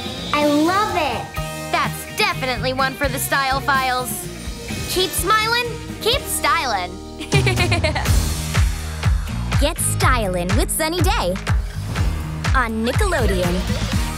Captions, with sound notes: I love it! That's definitely one for The Style Files! Keep smiling, keep styling! [giggling] Get styling with Sunny Day! On Nickelodeon.